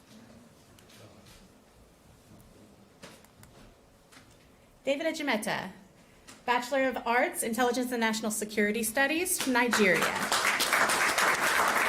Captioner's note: applause